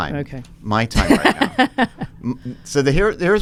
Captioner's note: laughs